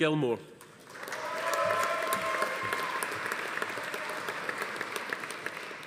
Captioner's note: audience applauding; attendees cheering